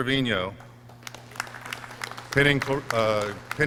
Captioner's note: clapping